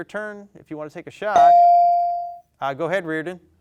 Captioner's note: bell dings